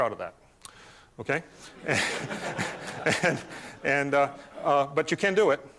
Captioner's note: laughter